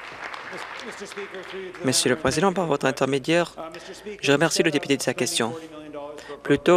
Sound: applause

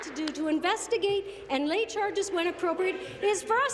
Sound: some Applause

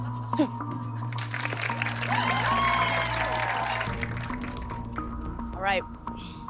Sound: cheers and applause

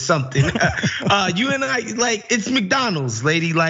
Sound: laugh

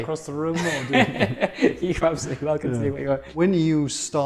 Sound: laughs

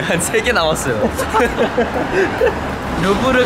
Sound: laughing

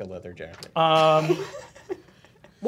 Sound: laughing

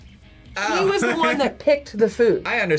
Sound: laughs

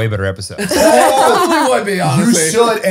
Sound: all laughing

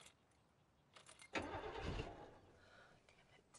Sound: engine cranks

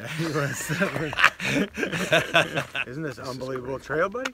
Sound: laughs

